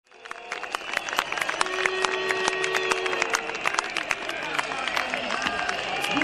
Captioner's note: booing, shouting, whistling from the protesters